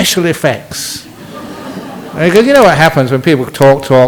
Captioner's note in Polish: Śmiech